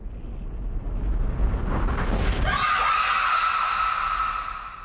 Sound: scream

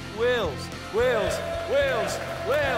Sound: chanting

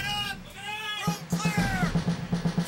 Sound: voiceover

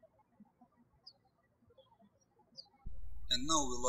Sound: birds chirping

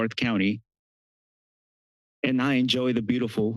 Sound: pause

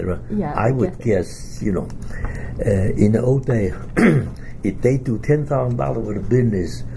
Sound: coughs

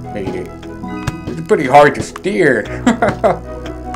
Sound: chuckles

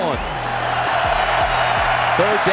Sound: crowd cheering

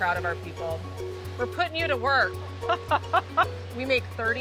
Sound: laughing

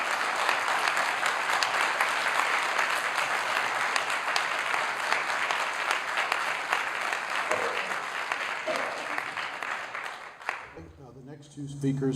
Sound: applause

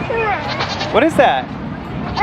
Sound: goats bleating

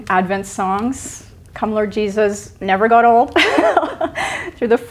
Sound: laughs

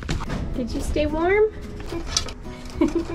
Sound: laughter

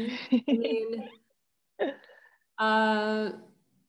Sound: laughs

